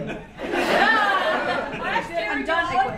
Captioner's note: audience laughs